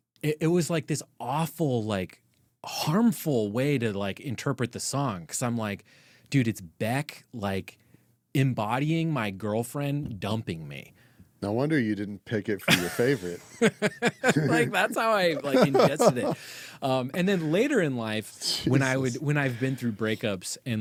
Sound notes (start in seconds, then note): 14.5 laughing